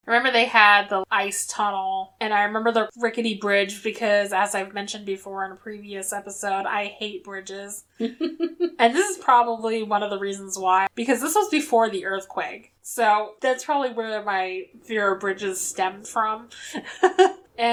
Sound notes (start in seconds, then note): 8.0 laughs